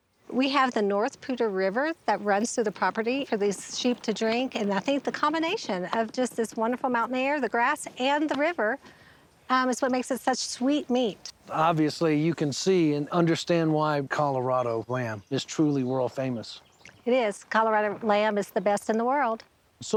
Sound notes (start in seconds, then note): none